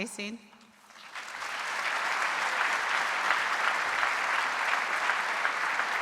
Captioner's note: audience applauding